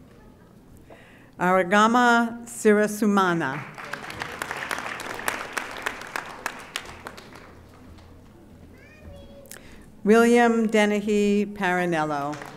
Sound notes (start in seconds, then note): 3.5 audience applauding; 12.2 audience applauding